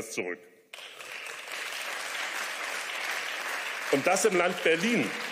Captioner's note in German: Beifall